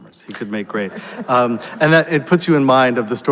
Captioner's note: audience laughs; laughs